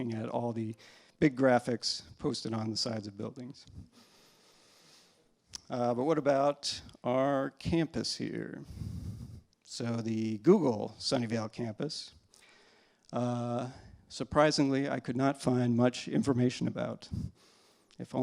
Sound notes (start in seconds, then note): none